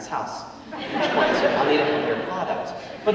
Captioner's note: audience laughing